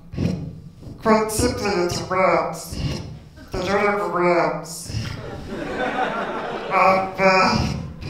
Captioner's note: laughter